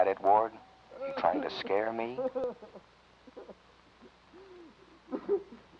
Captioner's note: Danny sobbing